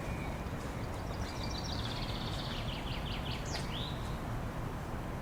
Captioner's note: birds Chirping